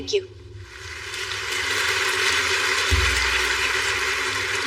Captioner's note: peoplple clappingng